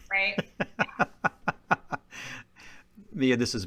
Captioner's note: laughing